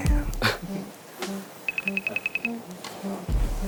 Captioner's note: worried